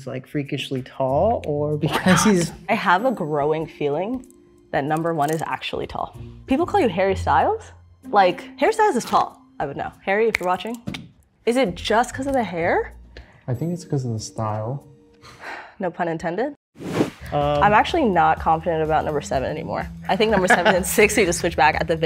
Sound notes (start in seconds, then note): 16.8 air whooshing